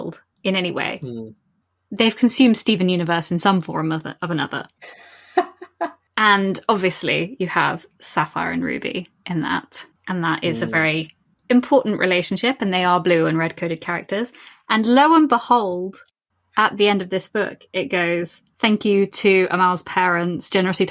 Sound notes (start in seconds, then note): 4.6 laughs